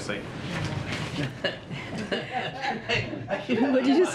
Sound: laughter

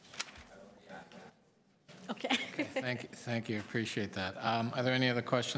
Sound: laughter

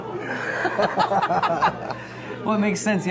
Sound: laughing

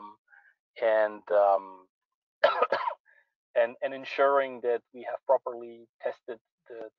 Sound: coughs

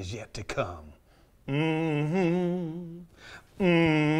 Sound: humming

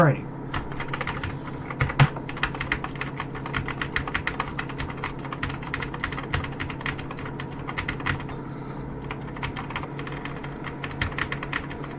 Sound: keyboard Mashing ASMR

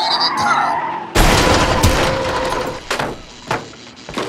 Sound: crash!!!

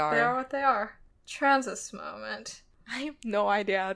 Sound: laughs

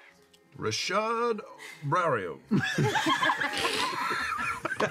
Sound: the cast laughs

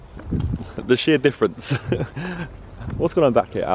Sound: chuckling

